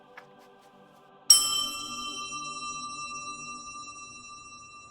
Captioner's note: glass ringing